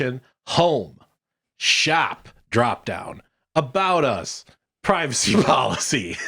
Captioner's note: laughs